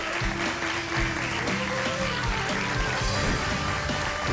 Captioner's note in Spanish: aplausos